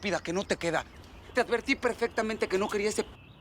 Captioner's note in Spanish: Tronando los dedos